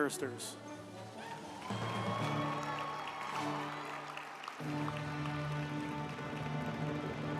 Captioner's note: uplifting music; group applauding